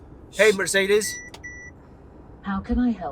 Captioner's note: Mercedes:Beep,Beep